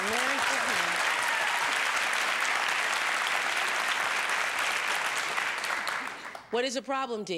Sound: applause

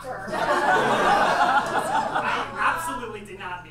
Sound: audience laughs

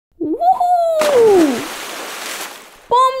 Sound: splash!

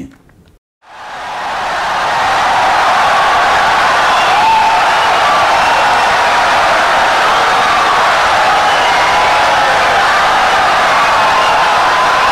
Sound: wild applause and cheering for 17 seconds

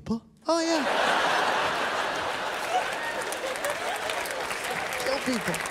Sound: laughter

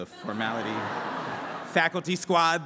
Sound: laughter

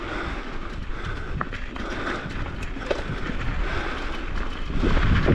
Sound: rider breathing heavily

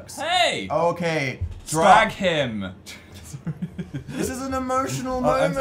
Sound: both laugh

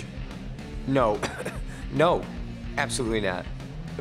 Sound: coughs

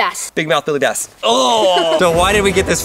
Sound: grunts

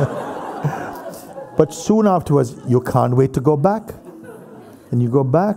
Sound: laughter

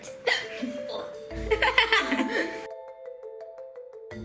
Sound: laughs

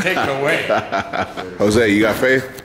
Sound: laughing

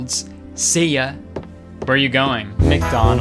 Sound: footsteps thumping

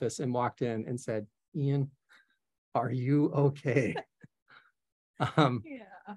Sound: chuckles

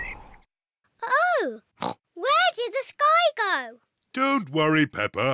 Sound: oinks

